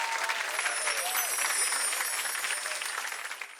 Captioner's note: audience cheering and clapping; bells chiming